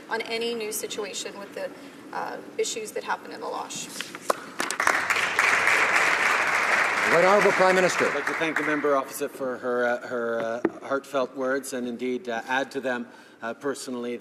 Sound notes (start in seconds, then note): 7.9 some Applause